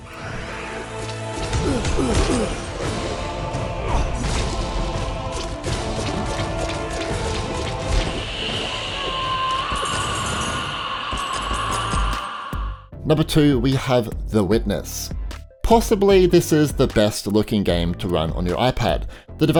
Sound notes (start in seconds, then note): 0.2 epic music; 1.4 character grunting